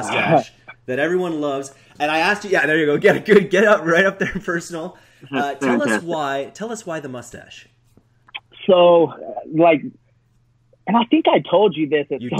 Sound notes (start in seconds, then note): 0.2 surprised chuckle; 3.0 laughs; 5.8 muffled microphone